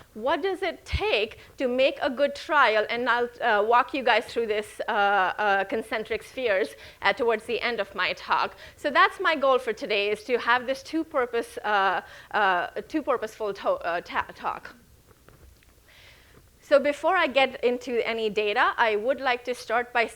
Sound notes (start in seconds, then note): none